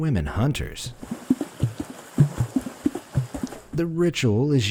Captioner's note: uptempo splashing